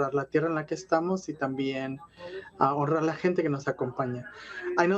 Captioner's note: speaking Spanish